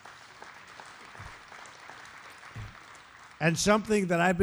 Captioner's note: applause